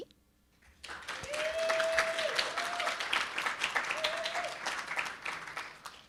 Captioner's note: audience cheering and applauding